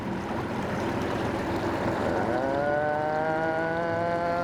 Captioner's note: boat humming